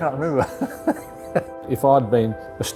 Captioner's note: laughs